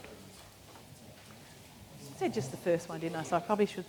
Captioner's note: audience mumbling